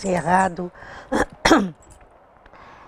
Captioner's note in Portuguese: pigarro